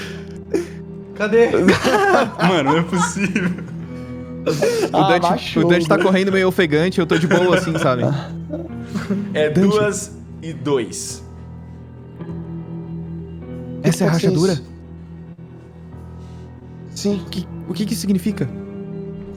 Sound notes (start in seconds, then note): 2.0 laughs